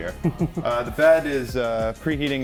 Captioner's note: laughs